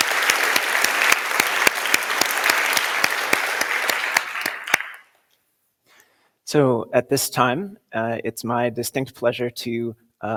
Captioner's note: applause